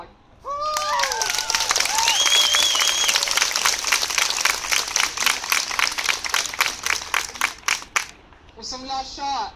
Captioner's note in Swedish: Jubel och applåder